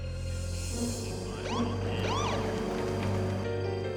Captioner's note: siren chirps